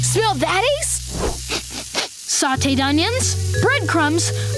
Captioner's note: sniffing